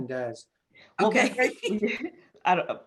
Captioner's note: laughs